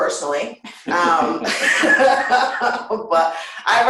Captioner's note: laughter